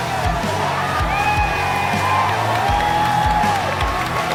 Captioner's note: the crowd cheers thinking its still part of the show